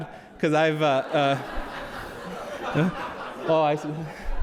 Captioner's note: audience laughs